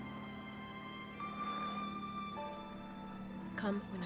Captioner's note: airplane approaching